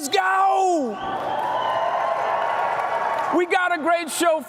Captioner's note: cheering